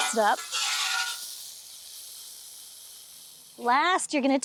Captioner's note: grill pan clanking